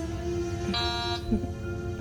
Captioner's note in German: Türsummer